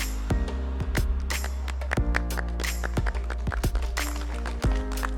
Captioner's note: mid-tempo music; applause